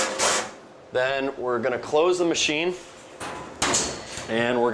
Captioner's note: clanks